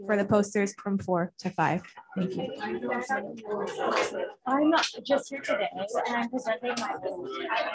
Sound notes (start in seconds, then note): 1.5 background chatter